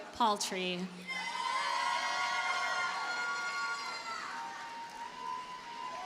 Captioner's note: audience cheers and applauds